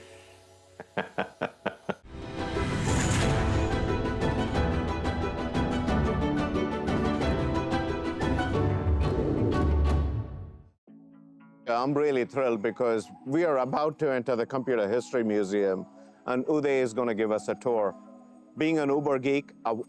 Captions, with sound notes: (laughs) (upbeat music) (upbeat music) I'm really thrilled because we are about to enter the Computer History Museum and Uday is gonna give us a tour. Being an Uber geek, I've